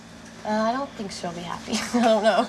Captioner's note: laughs